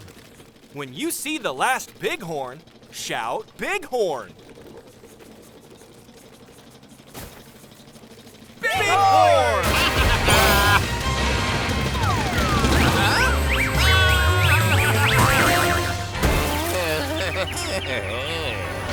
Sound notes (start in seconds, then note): 9.6 baaing; 13.5 baaing; 16.6 groaning